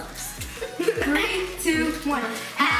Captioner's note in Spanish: risa